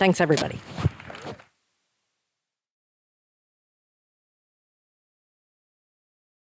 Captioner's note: mic thuds; attendees clapping